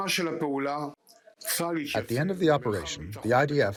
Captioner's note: through translator